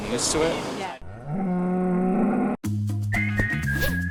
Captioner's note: cow mooing; upbeat whistling music